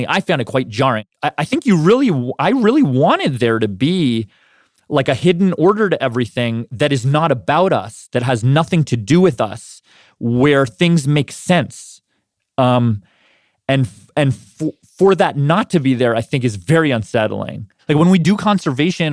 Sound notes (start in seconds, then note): none